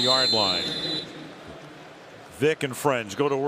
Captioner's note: pa announcement